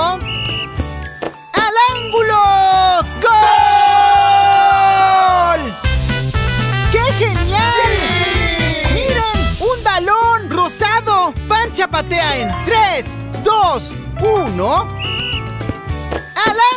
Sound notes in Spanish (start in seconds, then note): 0.1 Sonido de silbato; 3.4 Grito; 14.9 Sonido de silbato